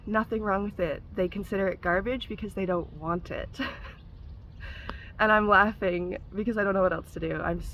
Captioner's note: laugh